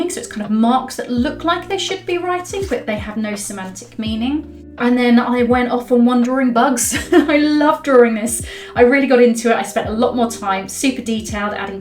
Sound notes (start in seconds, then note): 6.9 laughs